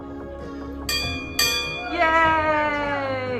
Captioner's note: bell ringing